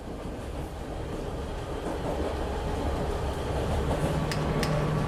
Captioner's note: train wheels clacking